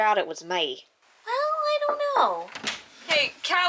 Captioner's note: knock